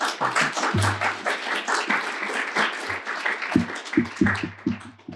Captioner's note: applause